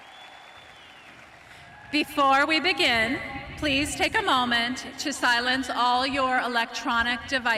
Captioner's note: cheering and applause